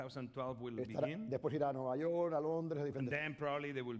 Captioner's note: speaking spanish